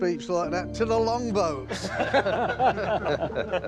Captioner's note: laughing